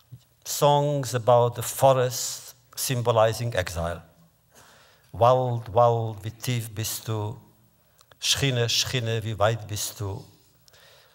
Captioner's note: Yiddish